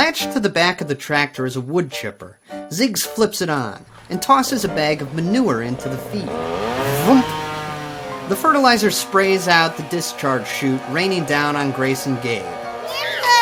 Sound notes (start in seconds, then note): 6.8 wood-chipper whirling